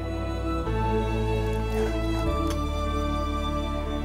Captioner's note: pouring water